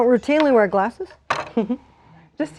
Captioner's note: chuckles